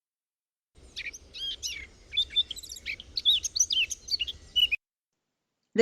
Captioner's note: birds chirping